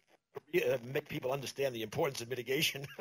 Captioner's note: laughs; laughter